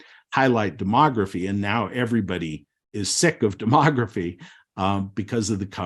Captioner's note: chuckles